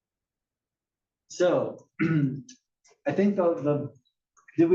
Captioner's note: cough